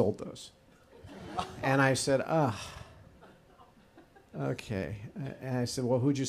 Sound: audience groans

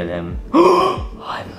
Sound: Luigi gasps

